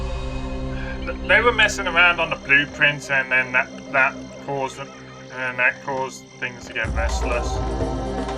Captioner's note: irritated sigh